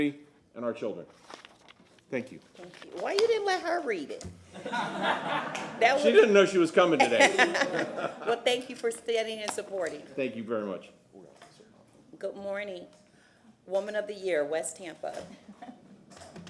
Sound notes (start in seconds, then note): 8.6 laughter